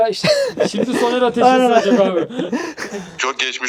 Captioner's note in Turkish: Gülüşmeler